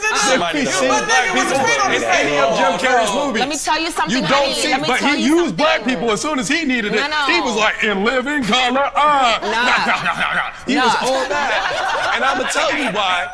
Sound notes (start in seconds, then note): 9.1 everyone laughing; 9.4 clownish laughing